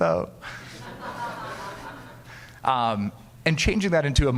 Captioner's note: audience laughing